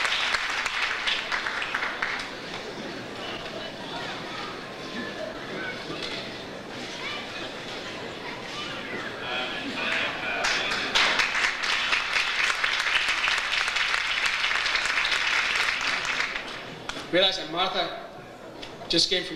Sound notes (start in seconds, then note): 3.2 overlapping chatter; 11.1 audience applauds